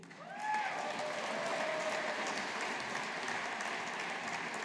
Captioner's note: audience applauding